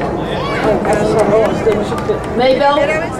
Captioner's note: crowd cheering